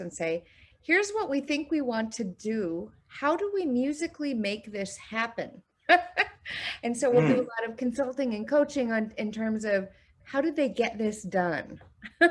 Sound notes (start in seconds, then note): 7.1 laughing